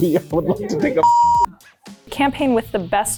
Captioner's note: everyone laughs